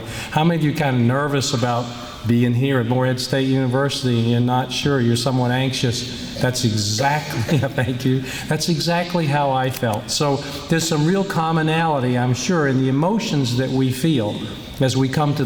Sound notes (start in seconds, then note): 6.9 laughs